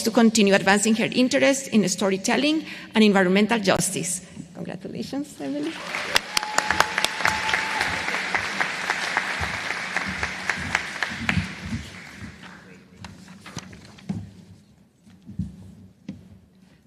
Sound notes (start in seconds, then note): 5.6 applause